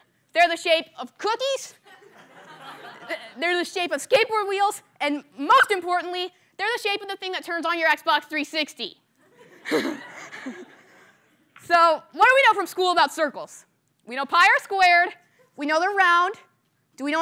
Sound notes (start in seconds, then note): 9.2 laughter